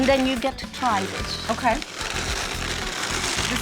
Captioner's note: winding sound